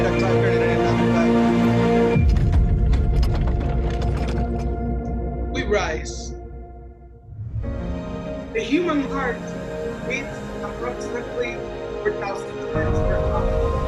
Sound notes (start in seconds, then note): 2.3 tense music; 3.3 tires screeching; 6.6 calm music; 13.6 high bass music